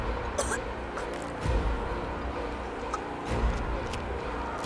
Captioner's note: Alana coughing